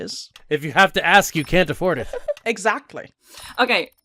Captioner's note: laughter